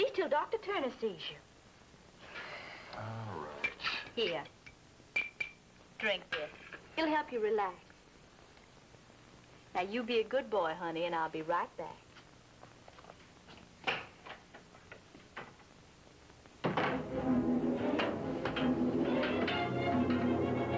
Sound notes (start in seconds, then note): 16.6 door clunks; 17.0 frantic music